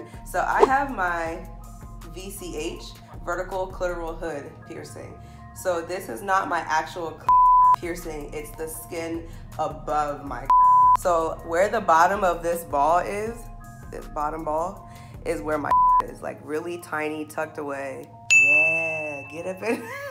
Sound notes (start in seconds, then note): 18.3 chime dinging